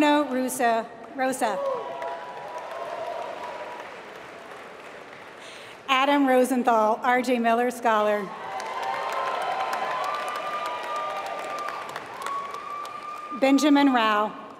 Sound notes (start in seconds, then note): 0.0 applause; 1.4 applause; 8.3 applause